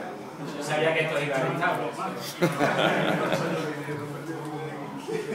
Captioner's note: laugh